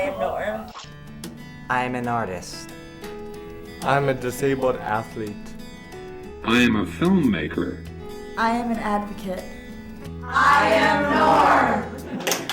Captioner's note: shouts; claps